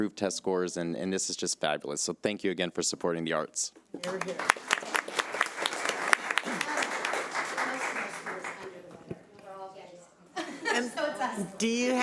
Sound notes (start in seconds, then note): 4.0 audience applauding